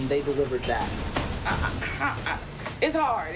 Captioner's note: stammering